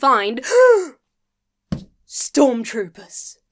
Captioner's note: gasps